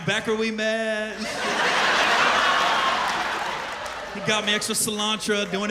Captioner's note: laughter